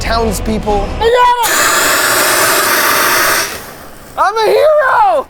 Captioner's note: extinguisher whooshing